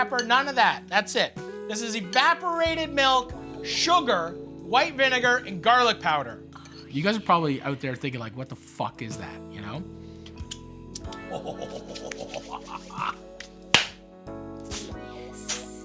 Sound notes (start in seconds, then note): 11.2 laughs; 13.4 clap